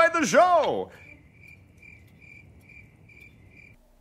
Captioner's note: crickets chirping